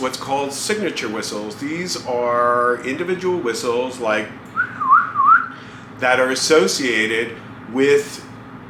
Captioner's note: whistles